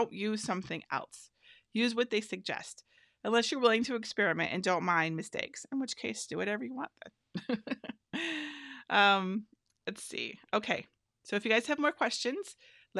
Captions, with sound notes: about it again, so don't use something else. Use what they suggest, unless you're willing to experiment and don't mind mistakes, in which case, do whatever you want, then. (laughs) Okay, let's see, so if you guys have more questions,